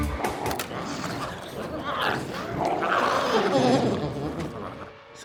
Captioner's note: glowzies growling